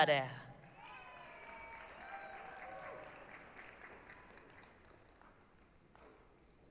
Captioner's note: applause, cheering